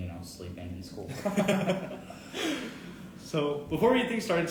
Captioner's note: both laughing